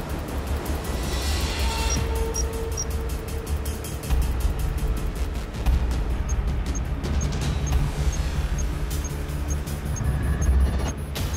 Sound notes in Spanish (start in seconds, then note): 2.8 Bips